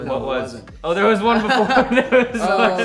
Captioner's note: band members laughing